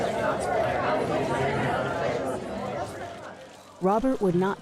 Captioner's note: crowd chattering